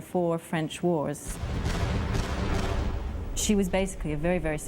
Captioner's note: booming